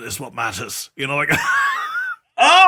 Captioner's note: laugh